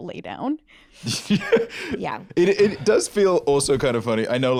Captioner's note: laughs